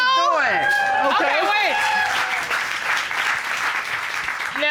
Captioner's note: audience cheering, applauding